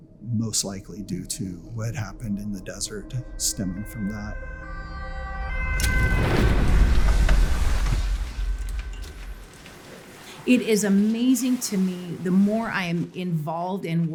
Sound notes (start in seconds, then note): 4.8 sirens wailing